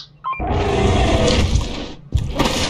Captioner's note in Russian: Звуки монстра